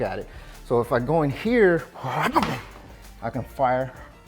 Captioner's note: foot slams